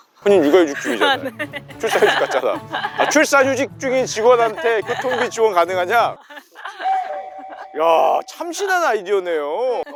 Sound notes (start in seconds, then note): 6.8 comic sound effect